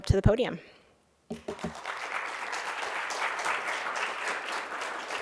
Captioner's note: applause